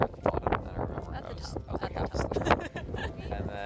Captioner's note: giggles